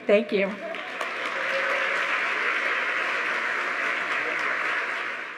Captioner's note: audience applauding